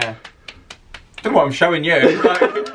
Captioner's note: hands clapping